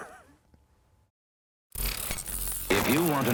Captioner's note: chuckles